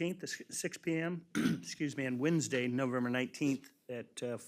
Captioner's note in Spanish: aclara la garganta